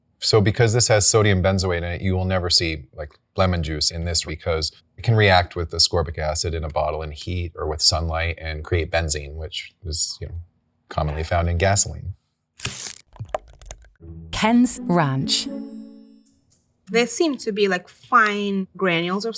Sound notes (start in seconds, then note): 12.6 seal rips; 12.6 ranch squelching